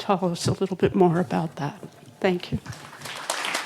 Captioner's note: applause